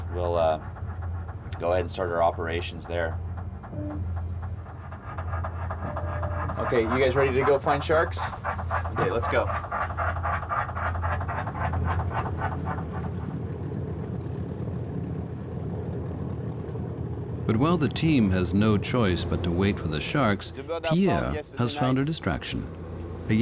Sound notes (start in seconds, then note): 3.5 sonar clicking rhythmically